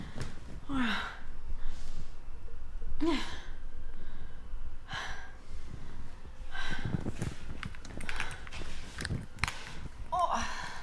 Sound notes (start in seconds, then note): 3.1 Maisie gasping